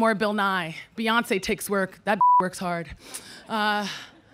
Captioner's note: beep